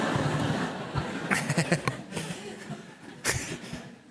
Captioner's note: audience laughed